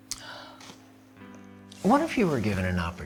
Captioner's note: sighs